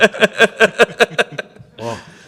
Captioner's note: laughing